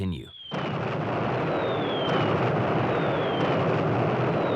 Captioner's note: bombs exploding